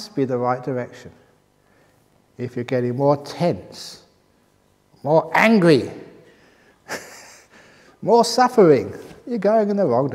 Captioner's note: laughs